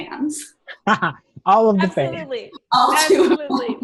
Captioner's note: chuckles